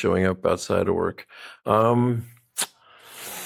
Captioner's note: smacks lips